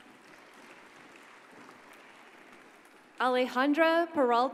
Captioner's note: audience applauds